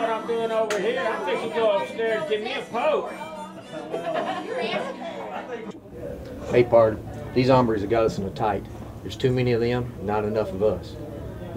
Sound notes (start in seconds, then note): 3.9 harmonica music; 3.9 people chattering